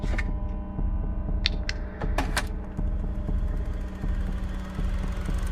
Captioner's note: projector ticking